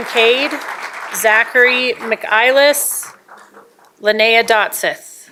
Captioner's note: applause